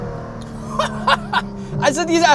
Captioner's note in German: gelächter